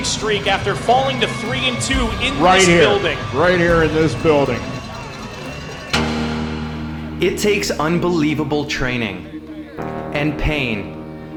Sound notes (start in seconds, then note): 5.2 crowd; 5.8 dramatic Music